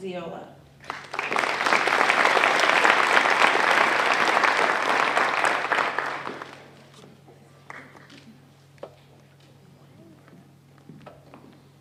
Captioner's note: applause